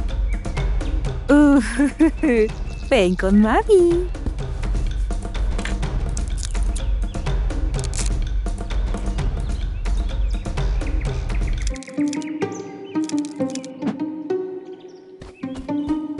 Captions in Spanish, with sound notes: (riéndose) ¡Uh! ¡Ven con mamá!